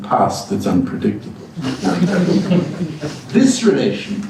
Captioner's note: chuckle